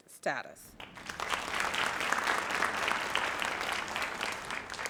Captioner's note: audience applauds